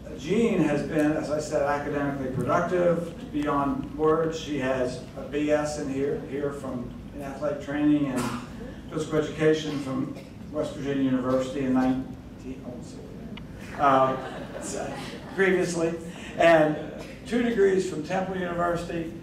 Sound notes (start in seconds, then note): 13.7 crowd laughing